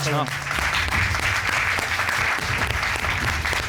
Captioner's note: applause